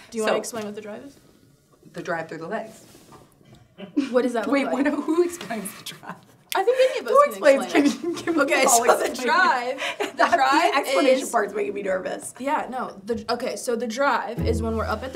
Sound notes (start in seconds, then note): 3.8 giggling; 6.0 laughing; 8.1 laughing; 9.7 laughing